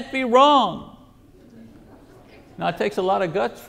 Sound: congregation laughs

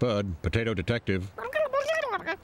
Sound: high voice babbling

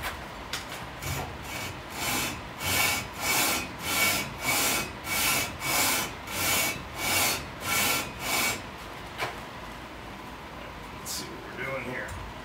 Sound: metal rubbing sound

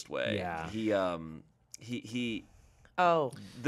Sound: stammering

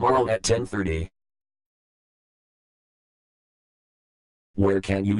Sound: silence

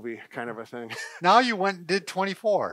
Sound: laughter

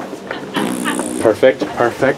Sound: blows raspberries

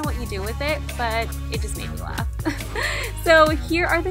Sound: laughs

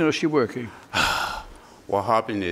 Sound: sighing

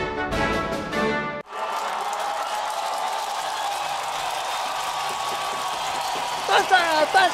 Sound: applause

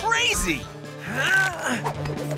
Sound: grunting

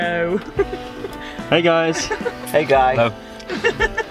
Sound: laughs

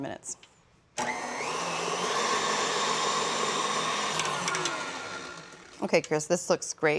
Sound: blender whirring

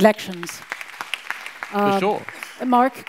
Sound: audience applauds

